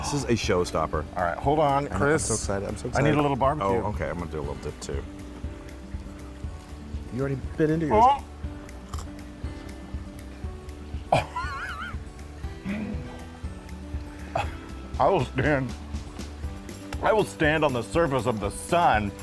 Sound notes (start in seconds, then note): 7.9 exclaims; 10.6 upbeat music